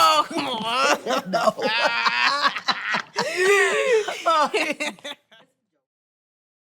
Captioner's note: laughing